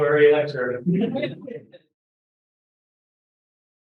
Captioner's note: laughter